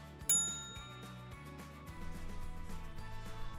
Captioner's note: bell dinging